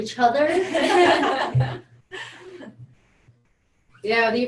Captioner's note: everyone laughs